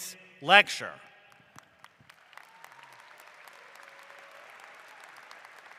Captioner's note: applause